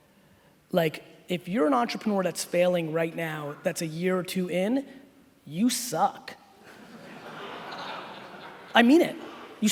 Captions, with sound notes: If you're an entrepreneur that's failing right now that's a year or two in, you suck. (laughing) I mean it.